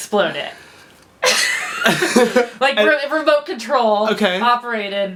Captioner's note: laugh